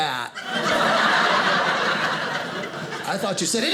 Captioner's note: audience laughing